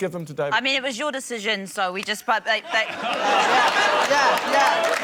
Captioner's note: stammers